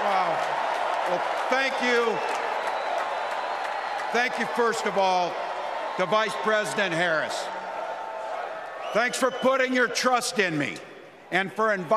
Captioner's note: applause